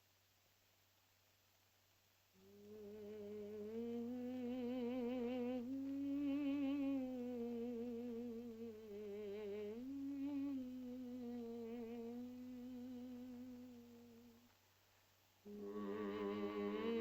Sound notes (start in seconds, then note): 2.4 Loana hums; 15.4 Loana and caveman hum